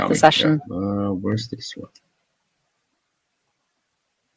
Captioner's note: speaking faintly